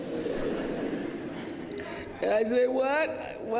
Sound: laughter

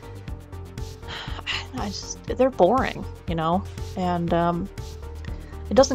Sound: sigh

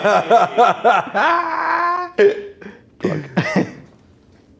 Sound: laughing

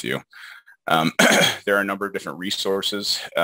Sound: clears throat

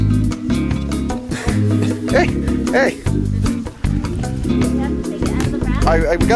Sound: laughs

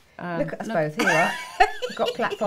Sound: laughing

